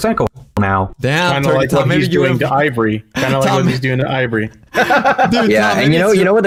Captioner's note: laughs